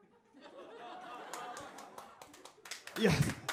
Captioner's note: applause